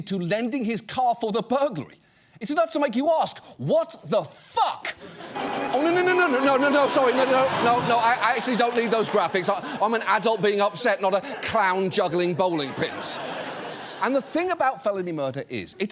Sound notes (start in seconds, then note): 5.2 wacky music playing; 7.8 audience laughs; 13.0 audience laughs